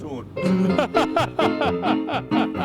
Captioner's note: laughs